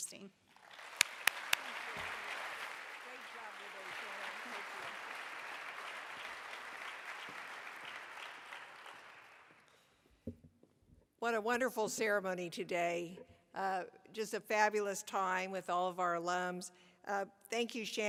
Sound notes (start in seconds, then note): 4.6 applause